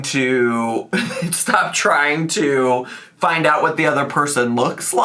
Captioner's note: laughs